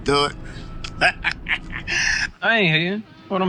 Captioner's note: laughing